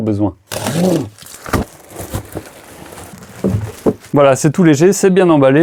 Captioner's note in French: bruit de carton qui se déplace